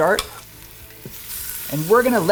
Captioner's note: pot sizzling